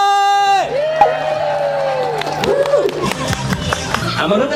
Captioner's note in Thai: เสียงประมือ